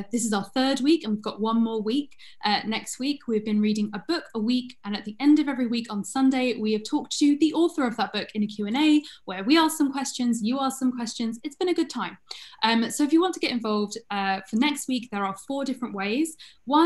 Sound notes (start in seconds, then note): none